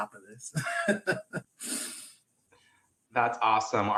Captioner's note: laughter